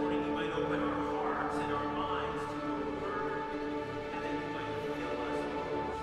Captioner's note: voice fades